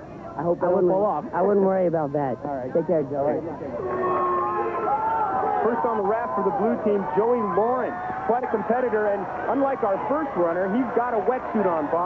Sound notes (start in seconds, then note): 4.7 crowd cheering